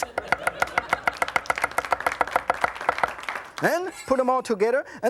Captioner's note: audience laughs and applauds; kitchen knife knocks on the cutting board